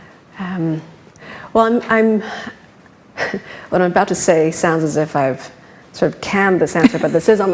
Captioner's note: laughs